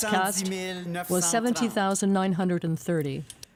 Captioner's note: speaking french